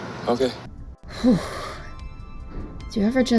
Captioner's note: exhales dramatically